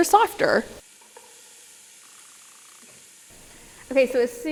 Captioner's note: pot sizzling